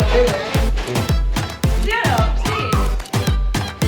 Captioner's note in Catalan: castellà